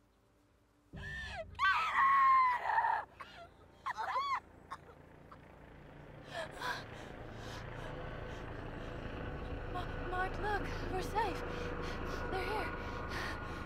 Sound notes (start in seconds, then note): 4.0 helicopter whirls